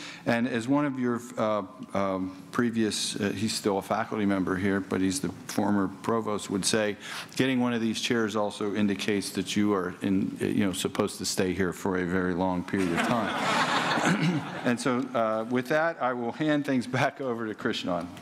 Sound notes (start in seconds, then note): 12.8 laughter